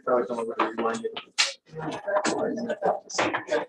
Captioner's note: crowd murmurs